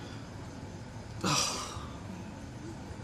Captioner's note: scoffs